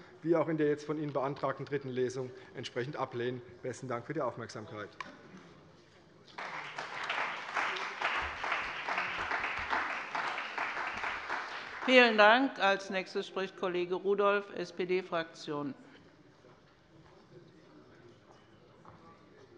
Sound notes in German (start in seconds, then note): 6.3 Beifall bei der CDU, dem BÜNDNIS 90/DIE GRÜNEN und der FDP